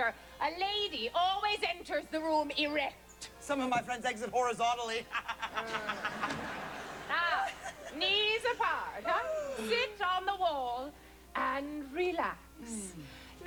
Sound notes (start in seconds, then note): 5.0 laughter; 5.0 laughs